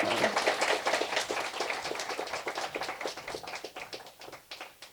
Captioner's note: applause